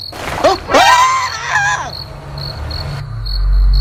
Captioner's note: turns around And Screams in fear